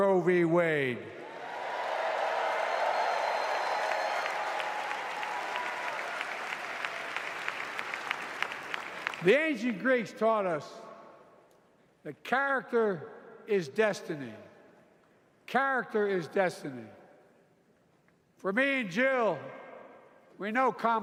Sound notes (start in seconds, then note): 7.3 applause